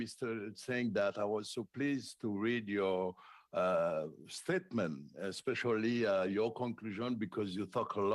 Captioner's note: speaking French